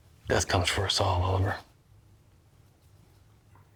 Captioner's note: none